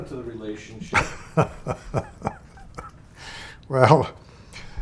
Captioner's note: laughs